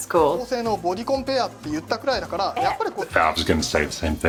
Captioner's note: speaking Japanese